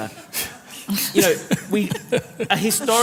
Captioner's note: laughter